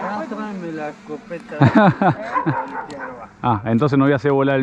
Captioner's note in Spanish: drone